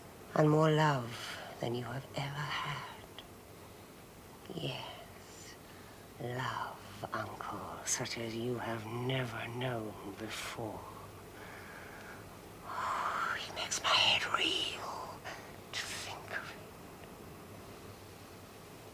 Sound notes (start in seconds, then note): none